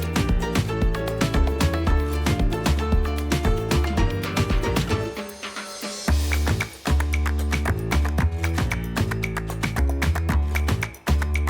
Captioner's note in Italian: Applauso